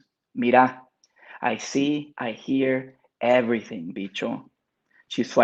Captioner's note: speaks Spanish